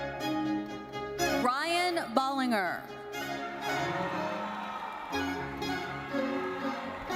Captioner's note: audience cheering